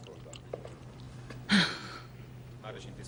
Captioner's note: sighs